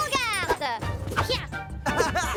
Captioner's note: grunts